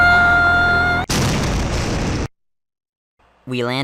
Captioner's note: explosion